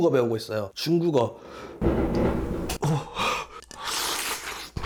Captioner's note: fireworks booming like thunder